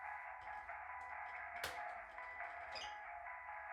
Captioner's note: sound of blender top opened